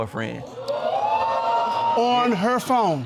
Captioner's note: audience exclaiming